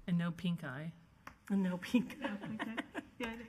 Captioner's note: female speaking faintly